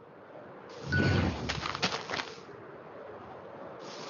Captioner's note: wind